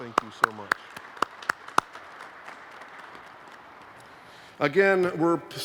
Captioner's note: applause